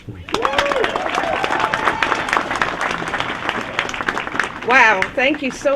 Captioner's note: applause